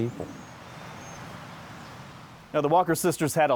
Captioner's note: birds chirping